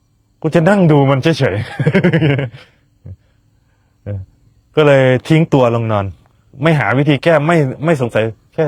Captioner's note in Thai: เสียงหัวเราะ